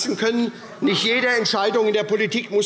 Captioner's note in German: Lachen AfD